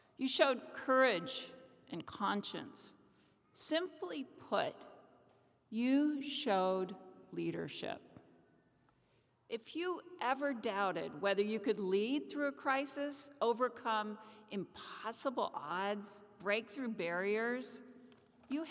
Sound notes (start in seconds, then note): none